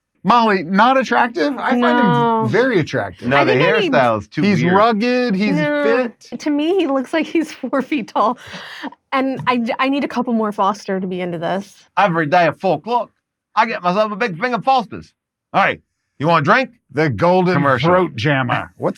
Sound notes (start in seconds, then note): 12.8 imitating Australian accent